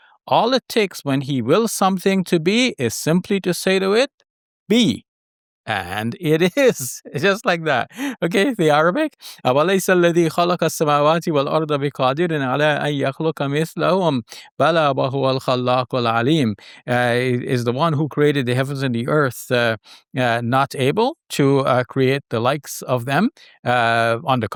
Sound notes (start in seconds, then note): 10.1 speaks Arabic